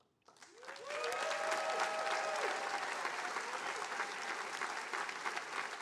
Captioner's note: attendees applauding